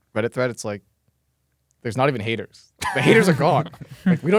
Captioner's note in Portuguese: risos